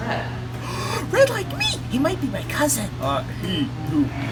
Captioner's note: gasps